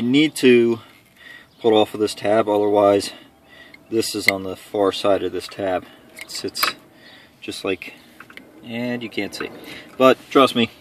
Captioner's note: metal mounting